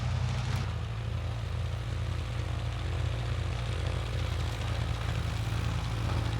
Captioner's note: vehicle rumbling continues